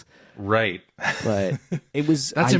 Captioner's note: laughs